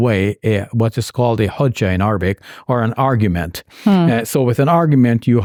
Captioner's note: speaks in foreign language